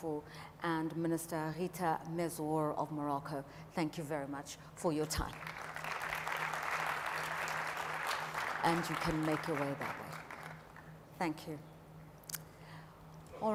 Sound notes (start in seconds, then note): 8.6 audience applauds